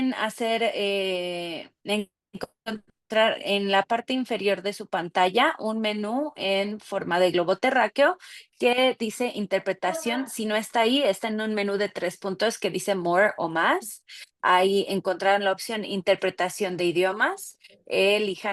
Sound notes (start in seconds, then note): 4.1 speaking Spanish